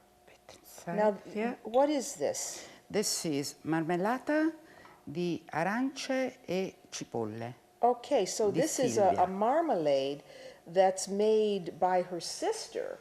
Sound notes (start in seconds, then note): 3.9 speaking Italian